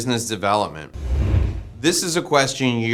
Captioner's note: dramatic bang